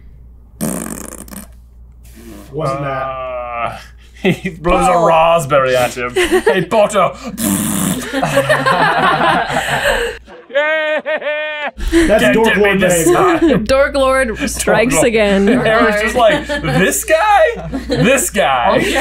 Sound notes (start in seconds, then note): 5.9 laughs; 8.0 laughter